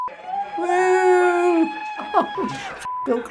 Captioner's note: sarcastically; laughing in disbelief